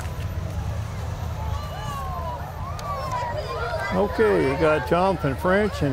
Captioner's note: revving and chattering continue